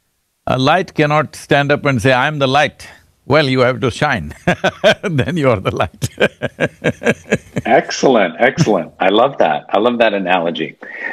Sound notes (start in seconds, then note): 4.3 laughs